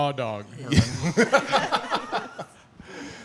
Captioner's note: laughing